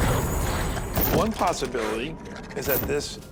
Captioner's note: growling